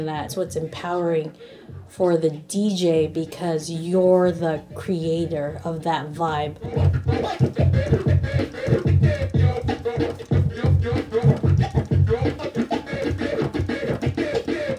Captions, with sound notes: and that's what's empowering for the DJ, because you're the creator of that vibe. (record scratching)